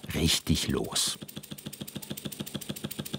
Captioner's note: Hurry chugging